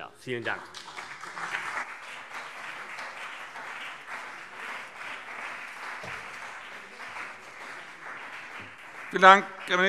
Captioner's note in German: Beifall CDU und BÜNDNIS 90/DIE GRÜNEN